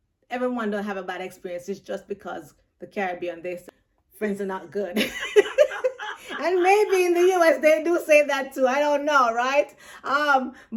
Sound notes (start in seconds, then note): 5.0 both laugh